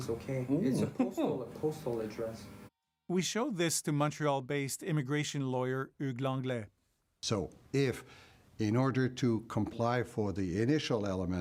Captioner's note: speaking foreign language